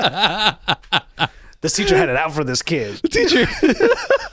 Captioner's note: laughing